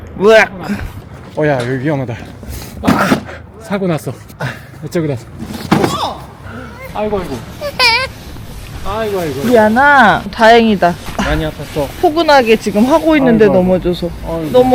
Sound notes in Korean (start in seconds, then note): 5.8 놀람